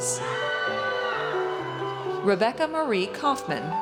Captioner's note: audience cheers